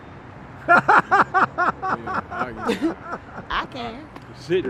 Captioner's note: laughs